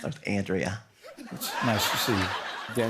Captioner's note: laughter